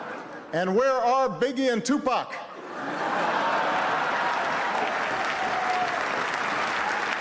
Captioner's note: laughs